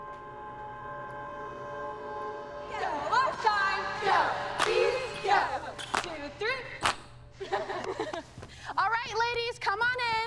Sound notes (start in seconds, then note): 7.4 laughter